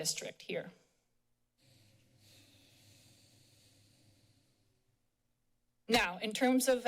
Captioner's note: silence